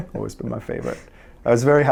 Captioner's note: interviewer laughs